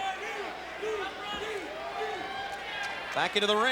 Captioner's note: crowd vocalizing